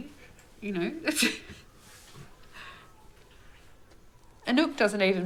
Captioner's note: people chuckling